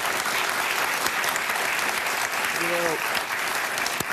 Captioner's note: applause